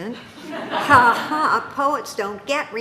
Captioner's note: audience laughing